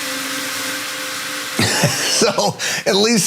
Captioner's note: laugh